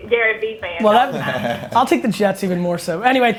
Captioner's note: laughs